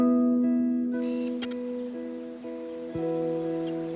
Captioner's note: camera beeps and whirrs